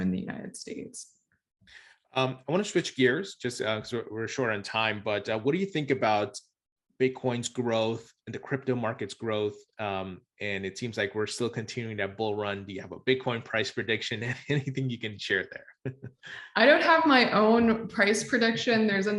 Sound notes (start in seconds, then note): 15.3 laughs